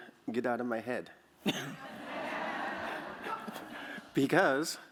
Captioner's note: laughter